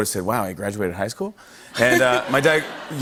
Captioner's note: laughter